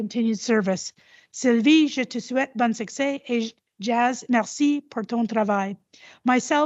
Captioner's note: repeats in French